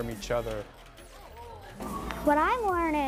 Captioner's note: group talking